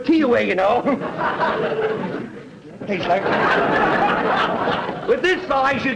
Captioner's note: audience laughter